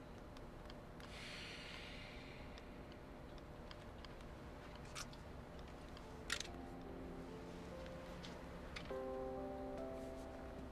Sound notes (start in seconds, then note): 1.3 Jerry sighs; 6.0 reflective music